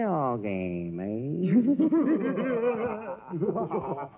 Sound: evil Laughs

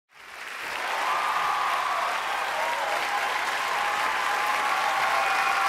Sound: audience clapping and cheering

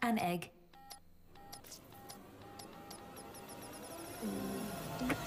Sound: beeping

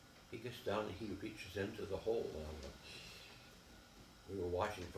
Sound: inhaling

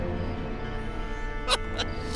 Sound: laughs manically

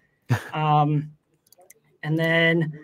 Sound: chuckles

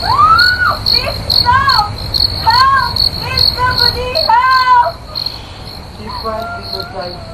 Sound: screaming

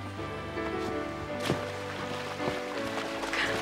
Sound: splashing

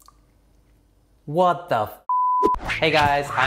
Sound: beep

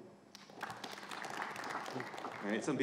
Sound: audience applauding

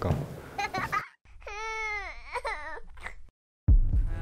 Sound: tears

